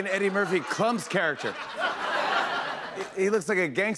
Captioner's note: laughter